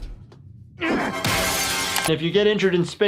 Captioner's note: glass breaking